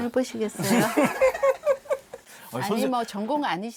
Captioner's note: heeheehee…